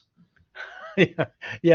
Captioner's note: laughs